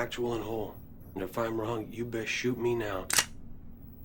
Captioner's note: gun cocks